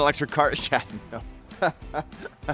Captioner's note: laughing